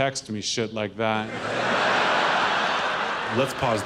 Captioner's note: audience laughs